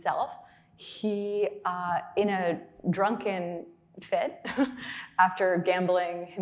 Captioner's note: laughing